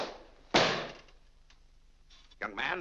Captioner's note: book slams on desk